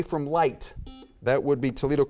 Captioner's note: buzzer beeps